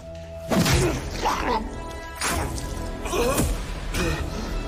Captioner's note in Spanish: Quejidos